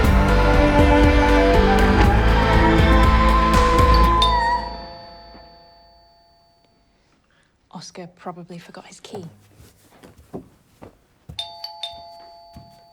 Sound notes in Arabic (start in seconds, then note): 0.2 غناء; 3.8 رنين جرس الباب; 11.4 رنين جرس الباب